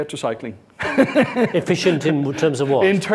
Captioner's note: laughing